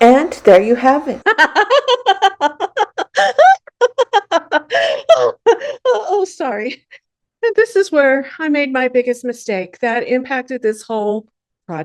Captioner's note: hysterical Laughing